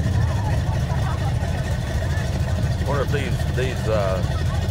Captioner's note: revving and chattering continue